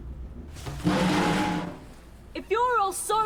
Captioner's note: metal grinds